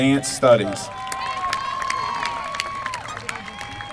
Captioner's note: applause